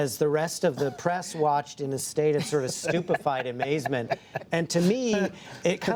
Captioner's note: laughter